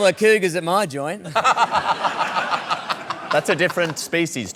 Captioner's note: laughter